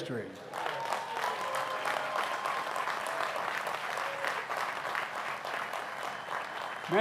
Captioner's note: applause